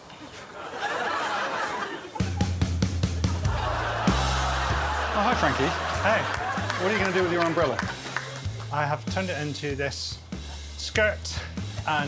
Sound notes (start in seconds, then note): 4.6 audience exclaiming